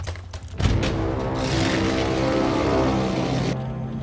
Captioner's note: Ferrari revving